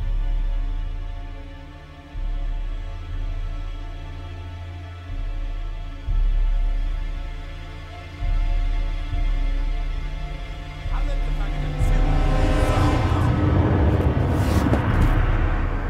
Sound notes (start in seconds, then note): 6.3 suspenseful music; 10.5 Von Rohr speaks in German; 12.6 suspenseful music